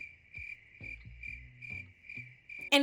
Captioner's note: crickets chirping